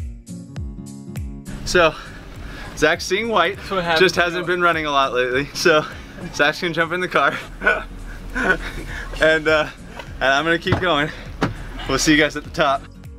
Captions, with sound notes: So Zach's seeing white, just hasn't been running a lot lately. So Zach's gonna jump in the car. (laughing) And I'm gonna keep going. We'll see you guys at the top.